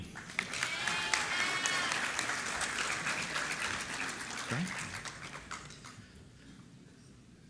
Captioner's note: applause